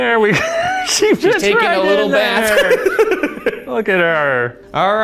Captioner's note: laughs; laughing